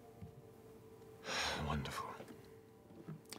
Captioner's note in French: soupire